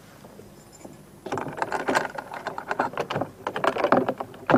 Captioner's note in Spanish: Se abre un cerrojo